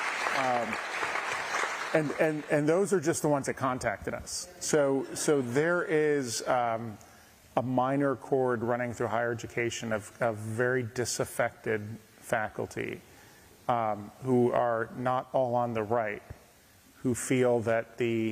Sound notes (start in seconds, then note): 1.8 applause